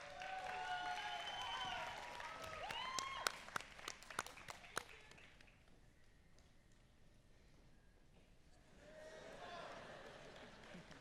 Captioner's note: applause